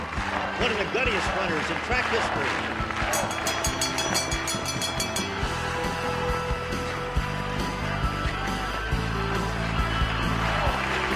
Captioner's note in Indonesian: penonton bersorak